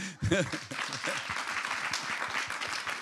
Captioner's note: applause